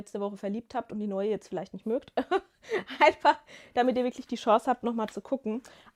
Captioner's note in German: gelächter